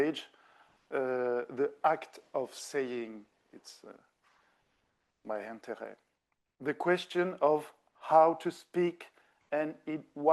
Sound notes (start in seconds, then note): 4.5 speaking French